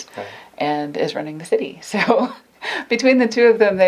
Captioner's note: laughs